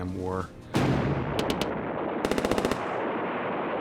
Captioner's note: explosions and gunfire